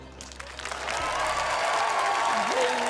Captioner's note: cheering, applause